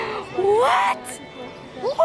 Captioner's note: gasp